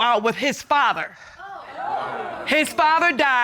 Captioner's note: audience exclaims